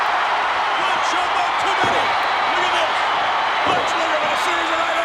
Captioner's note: crowd cheering drowns out Vince